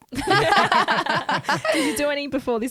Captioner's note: laughing together